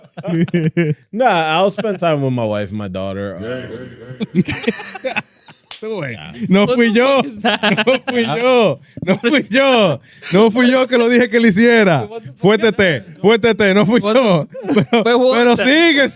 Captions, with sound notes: (Laughing) Nah, I'll spend time with my wife and my daughter. (Laughing) (Speaking In Foreign Language)